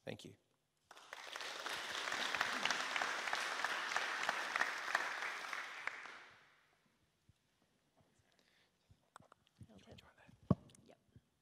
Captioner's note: applause